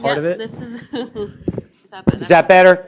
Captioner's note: laughter